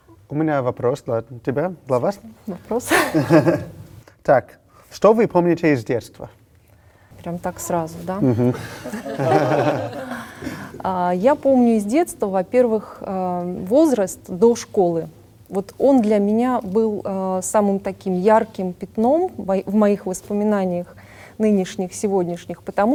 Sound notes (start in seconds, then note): 8.2 laugh